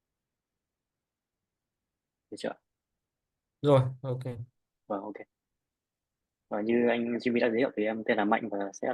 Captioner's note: silence